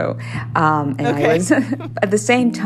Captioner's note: laughter